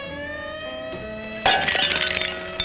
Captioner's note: glass shattering